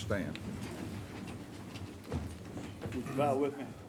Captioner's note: chairs rustling